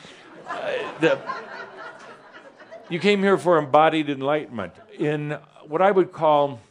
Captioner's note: some chuckles